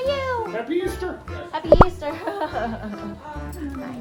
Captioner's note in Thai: หัวเราะ